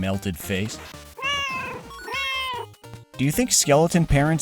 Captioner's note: meow, meow